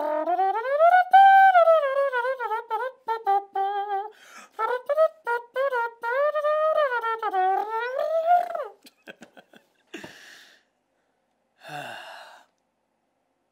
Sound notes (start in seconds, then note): 8.7 laughs; 11.6 sighs